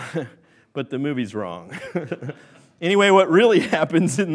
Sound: laughs

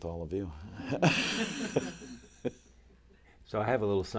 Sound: laughter

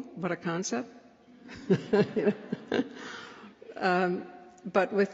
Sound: laughter

